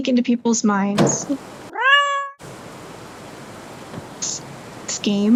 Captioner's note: window flies open